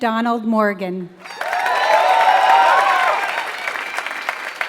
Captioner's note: applause